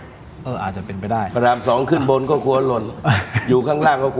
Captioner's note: laughs